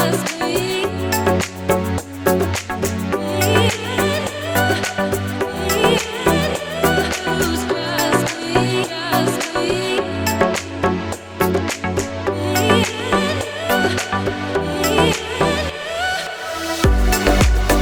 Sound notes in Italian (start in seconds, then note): 5.7 Applauso